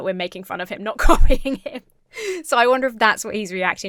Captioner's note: laughs